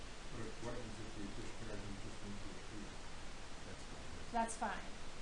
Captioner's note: man speaking